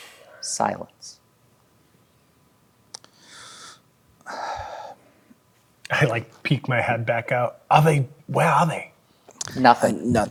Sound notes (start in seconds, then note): 4.2 sighs